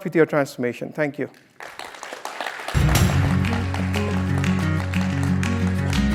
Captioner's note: applause